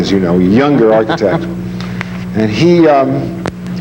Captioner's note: laughs